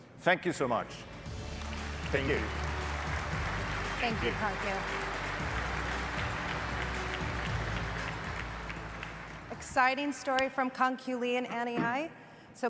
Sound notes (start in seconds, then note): 2.8 audience applauding; 2.8 upbeat music